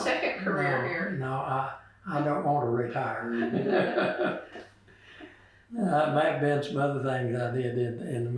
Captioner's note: laughs